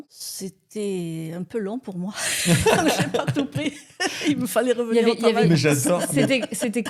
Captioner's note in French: rires